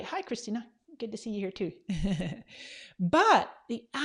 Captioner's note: laughs